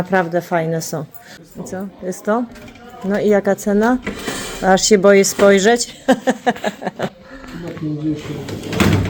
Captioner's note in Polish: śmiech